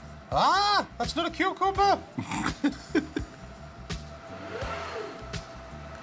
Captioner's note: both laugh